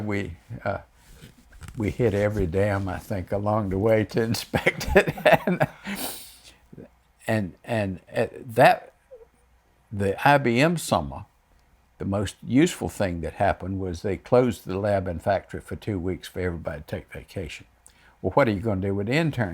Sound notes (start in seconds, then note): 0.0 laughs; 7.1 laughs